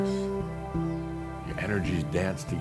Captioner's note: none